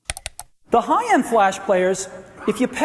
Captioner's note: mouse clicks